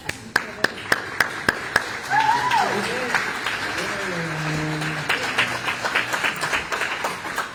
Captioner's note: applause